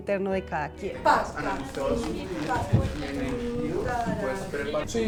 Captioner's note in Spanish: sonidos vocales que acompañan el movimeinto